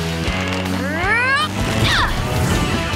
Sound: grunting

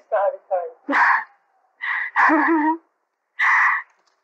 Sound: laughter

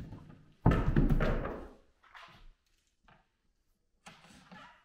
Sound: board banging

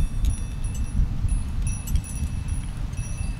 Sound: sound of wind chimes

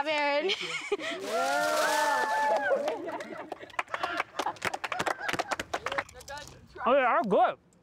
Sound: cheering

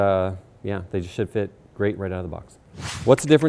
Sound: air whooshing

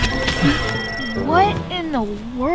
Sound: beeping

